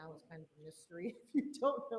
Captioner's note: giggles